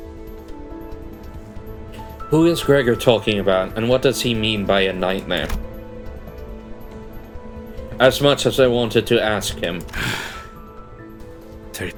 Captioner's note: sigh